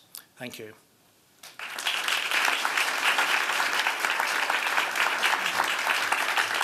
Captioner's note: applause